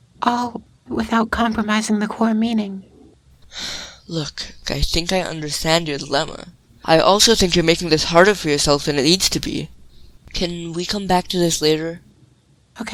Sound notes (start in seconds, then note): 3.4 sighs